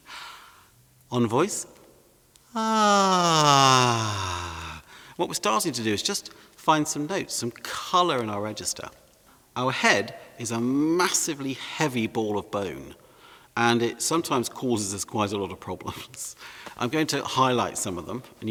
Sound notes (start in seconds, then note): 2.5 sighs